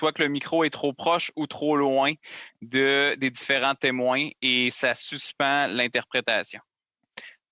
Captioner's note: speaking French